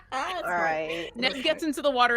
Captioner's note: person laughing